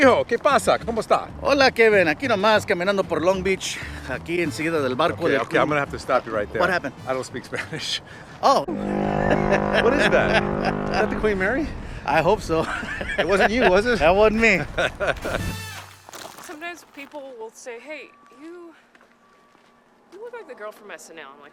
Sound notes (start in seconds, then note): 0.1 speaking in a foreign language; 8.7 buzzing noise; 15.0 laughing